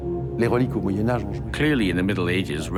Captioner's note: speaks in foreign language